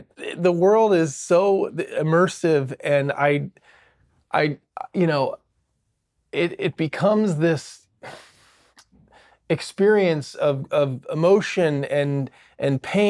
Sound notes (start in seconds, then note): none